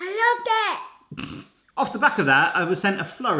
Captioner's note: chuckles